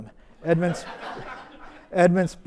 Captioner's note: audience laughs